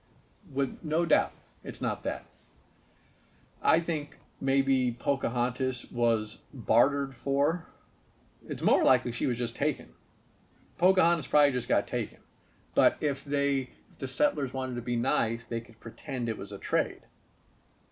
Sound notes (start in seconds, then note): none